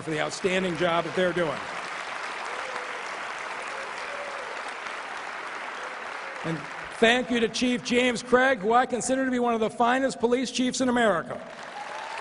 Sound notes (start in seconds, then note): 8.9 applause